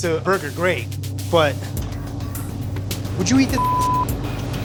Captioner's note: beep